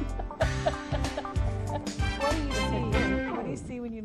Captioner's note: laughs